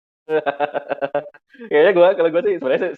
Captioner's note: laughs